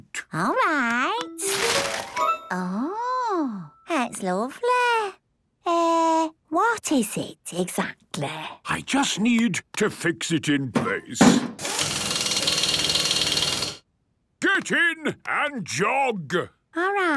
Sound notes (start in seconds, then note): 11.3 drilling